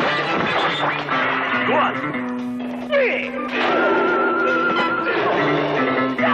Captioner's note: fighters exclaiming